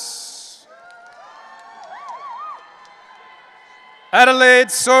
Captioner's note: audience cheering